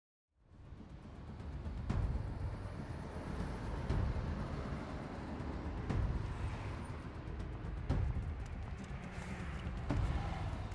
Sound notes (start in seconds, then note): 0.3 helicopter flying; 3.2 fading sound